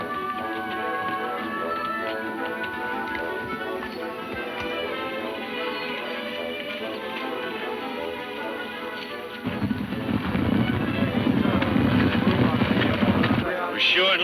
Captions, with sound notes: (hooves thudding) - We're sure in luck.